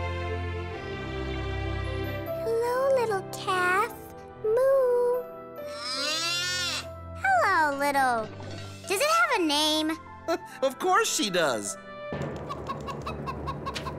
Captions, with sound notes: Hello, little calf. Moo. [mooing] Hello, little... Does it have a name? [chuckles] Of course she does. [clucking]